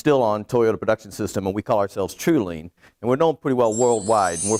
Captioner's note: twinkle noise